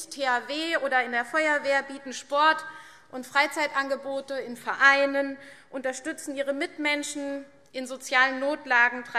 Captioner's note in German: none